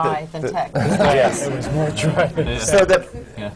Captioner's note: laughter